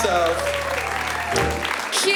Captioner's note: applause